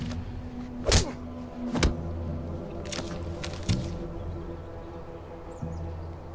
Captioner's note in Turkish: Vurma ve ısırma sesleri